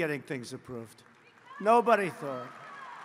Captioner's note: applause